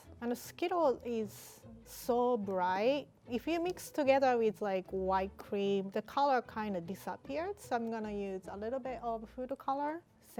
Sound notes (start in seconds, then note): none